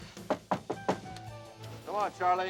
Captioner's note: knock on door